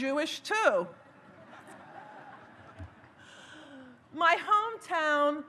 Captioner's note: audience laughs